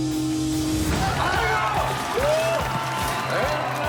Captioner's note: yelling